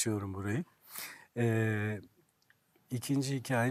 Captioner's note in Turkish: homurdanır